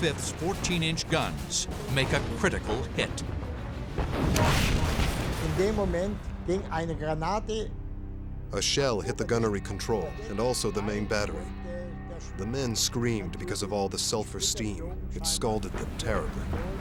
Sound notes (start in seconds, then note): 7.0 speaking german